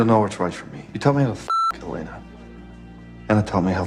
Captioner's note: beep